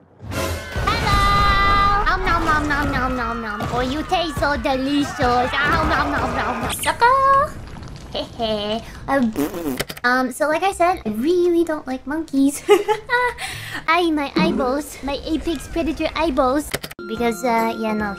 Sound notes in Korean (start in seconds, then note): 12.5 웃음